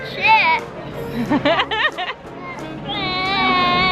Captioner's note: laughs